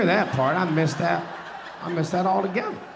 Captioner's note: audience laughing